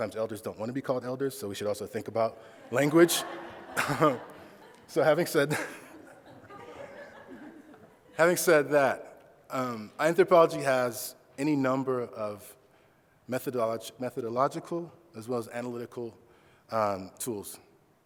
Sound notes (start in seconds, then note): 2.7 laughing